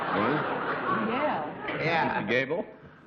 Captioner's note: laughter